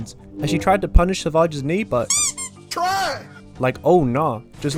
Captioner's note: duck noise